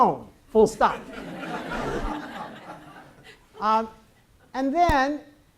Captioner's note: audience laughs